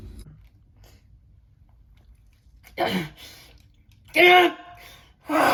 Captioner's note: grunts in pain